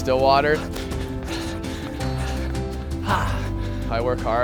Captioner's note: gasping